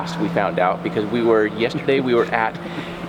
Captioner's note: officer Laughing